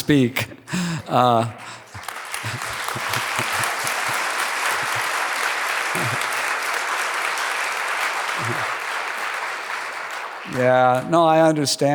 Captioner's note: applause